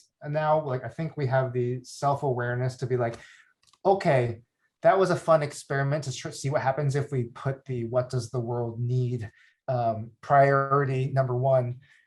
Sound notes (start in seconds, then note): none